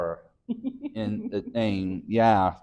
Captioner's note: chuckles